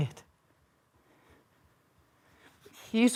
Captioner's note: soft breathing